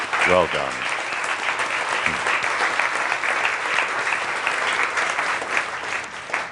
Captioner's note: audience applause